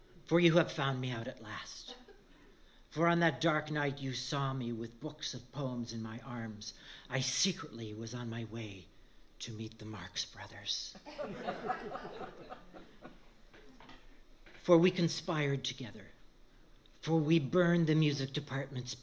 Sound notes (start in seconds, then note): 11.0 laughter